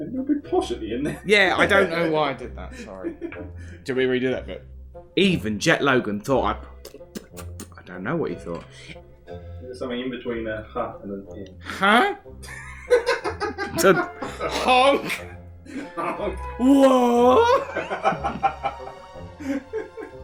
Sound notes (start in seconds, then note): 6.8 splutter